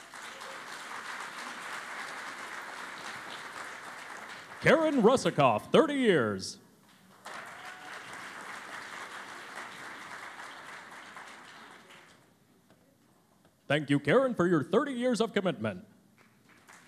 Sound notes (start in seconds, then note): 0.0 cheering and Applause; 9.7 cheering and Applause; 16.1 applause